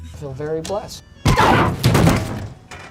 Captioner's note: yells; body thumping on windshield